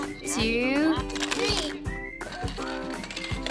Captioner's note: toy rattling; lighthearted music; toy rattling